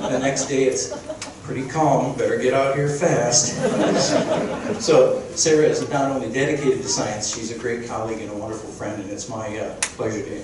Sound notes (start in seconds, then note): 0.0 crowd laughing; 3.4 crowd chuckling